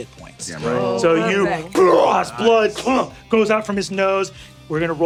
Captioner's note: grunts